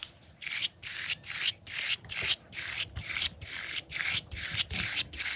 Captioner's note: brush sounds